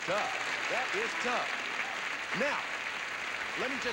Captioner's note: audience applauding